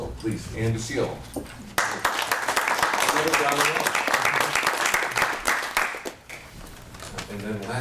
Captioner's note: applause